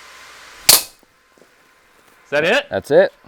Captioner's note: bat fires